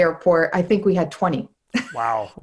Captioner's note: laughs